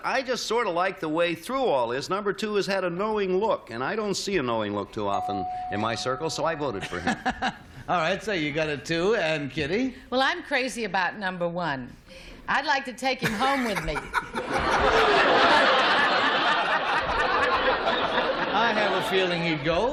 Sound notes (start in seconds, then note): 8.8 laughs; 16.0 laughter